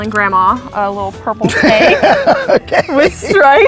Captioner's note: laughs